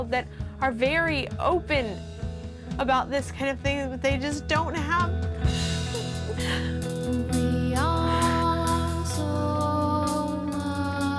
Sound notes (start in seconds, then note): 5.9 crying; 8.0 comforting music